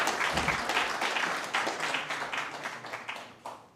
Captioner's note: applause